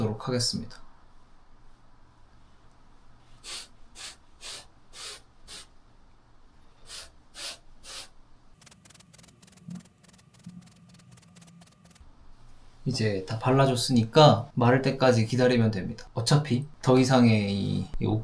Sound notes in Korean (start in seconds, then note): 4.9 콧방귀